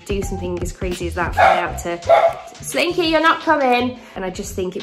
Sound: Slinky complains loudly

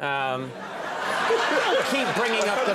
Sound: crowd laughing

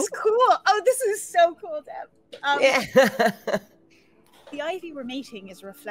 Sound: laughs

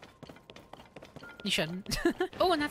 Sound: giggle

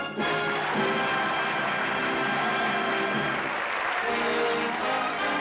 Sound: applause, cheering

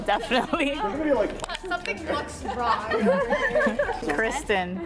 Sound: laughing

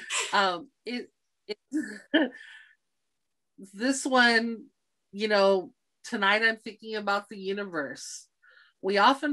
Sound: laughing

